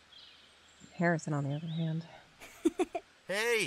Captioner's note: laughs again